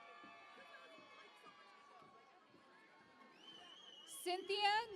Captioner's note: cheering and Applause